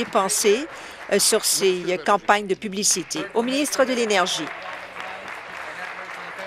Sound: applause

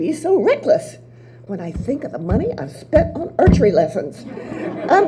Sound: audience laughs

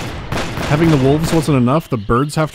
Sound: gunshots

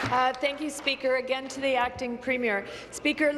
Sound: applause

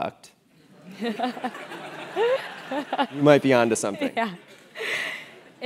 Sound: laugh

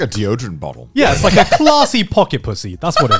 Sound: laughing; laughing

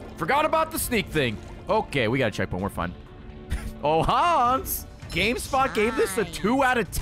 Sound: laughs

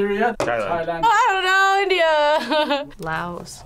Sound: laughs

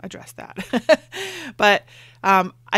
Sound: laughs

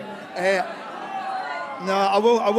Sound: audience cheers

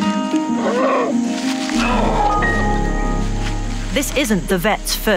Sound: cheerful music; bear growling

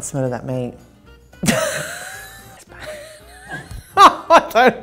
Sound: laughing

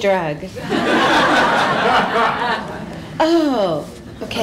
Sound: laughter

